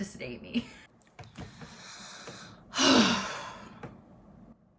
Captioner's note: sigh